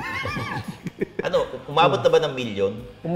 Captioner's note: laughs